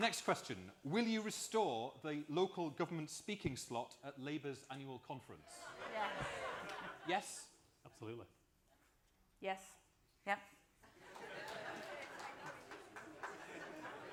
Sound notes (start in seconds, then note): 4.4 applause; 10.8 laughter and applause